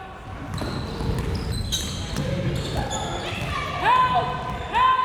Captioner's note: crowd members shouting